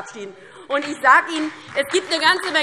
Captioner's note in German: Beifall DIE LINKE und SPD